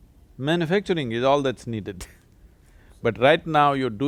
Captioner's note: laughs